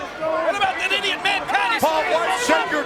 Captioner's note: presenter speaking faintly off mic